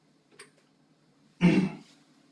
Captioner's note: cough